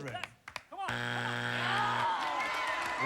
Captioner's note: buzzer